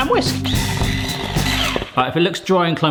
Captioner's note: whisk whizzes